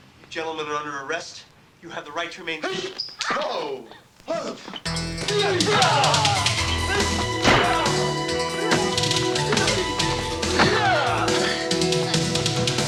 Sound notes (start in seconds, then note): 2.6 Kyoki grunting; 4.9 dynamic music; 5.1 men grunting